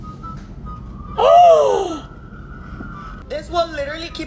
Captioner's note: gasps